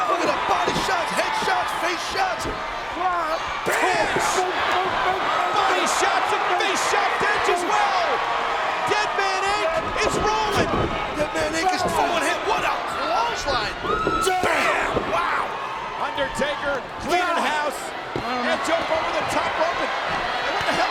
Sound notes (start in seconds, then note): 3.2 person yelling; 12.5 overlapping chatter